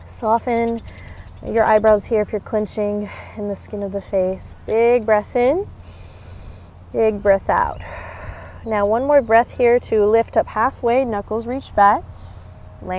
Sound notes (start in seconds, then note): 5.8 takes deep breath; 7.8 blows out breath